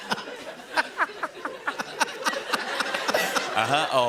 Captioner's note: laughter